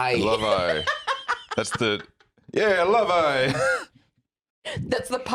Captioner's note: laughs